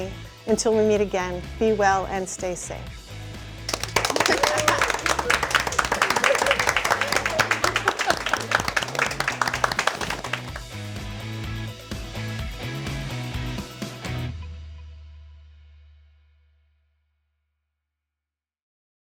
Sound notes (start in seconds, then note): 3.6 nurses applauding; 9.0 upbeat music